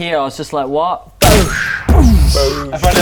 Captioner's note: boosh; booosch